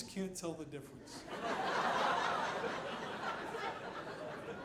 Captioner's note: audience laughing